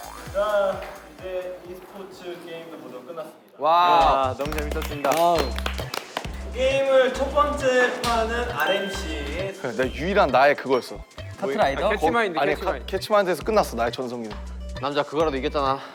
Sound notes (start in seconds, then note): 4.4 Aplausos